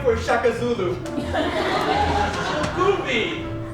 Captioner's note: audience laughs